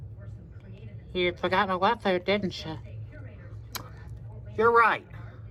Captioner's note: normal voice